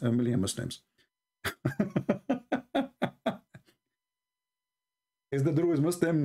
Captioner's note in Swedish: Skratt